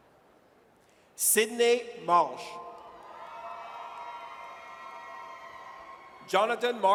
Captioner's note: audience cheers